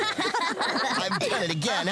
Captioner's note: laughter